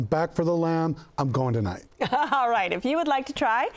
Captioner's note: laughing